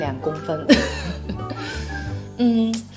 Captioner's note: laughs